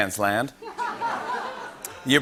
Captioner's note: laughter